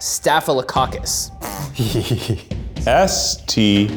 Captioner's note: group laughs